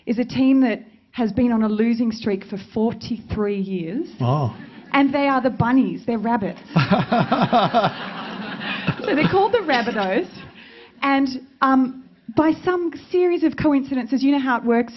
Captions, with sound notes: is a team that has been on a losing streak for 43 years. And they are the Bunnies, they're rabbits. (all laughing) So they're called the Rabbit-o's. And by some series of coincidences, you know how it works